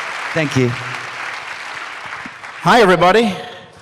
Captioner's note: applause quiets